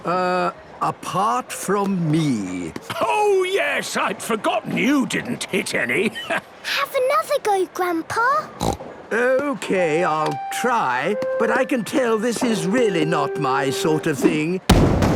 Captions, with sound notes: - Uh, apart from me. - Oh yes! I'd forgotten you didn't hit any. - Have another go, Grandpa! (snorts) - Okay. I'll try. But I can tell this is really not my sort of thing.